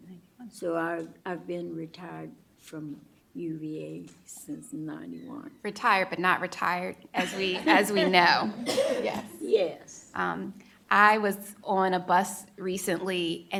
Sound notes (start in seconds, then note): 7.2 laughter